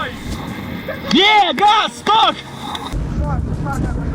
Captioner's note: sounds of joy